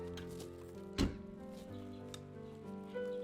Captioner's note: trunk closes